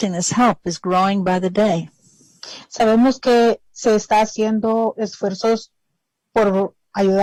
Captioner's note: speaking spanish